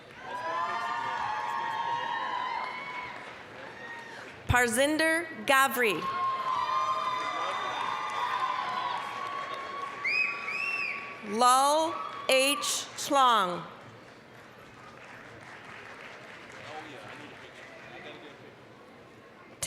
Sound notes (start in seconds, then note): 0.0 applause, cheering; 6.0 applause, cheering; 13.6 applause